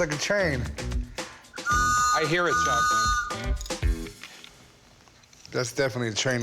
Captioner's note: whistle blows